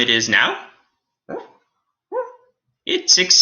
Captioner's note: Alien Space Doggy whimpers